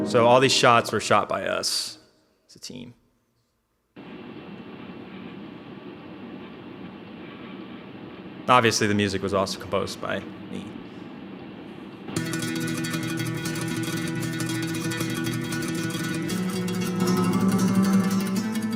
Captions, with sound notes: So, all these shots were shot by us as a team. (white noise) Obviously the music was also composed by me. (tense guitar music)